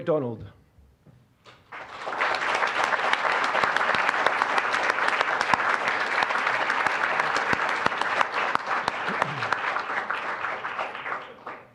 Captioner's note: applause